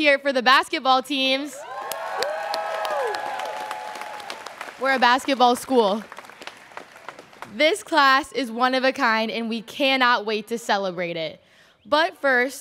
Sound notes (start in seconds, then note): 1.6 students cheering